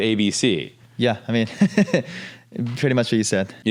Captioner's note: laughs